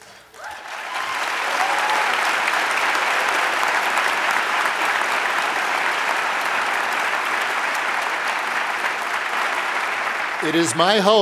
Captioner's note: applause